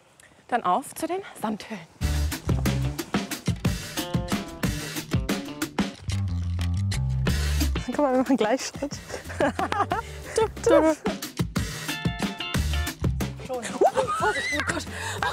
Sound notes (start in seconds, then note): 9.0 they laugh